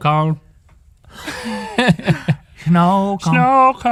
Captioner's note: laughing